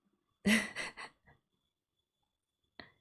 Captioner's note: laughs